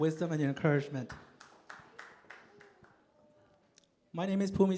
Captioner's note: applause